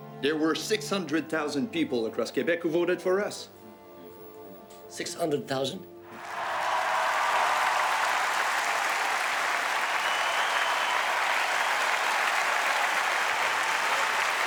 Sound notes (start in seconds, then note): 6.1 crowd cheering and applauding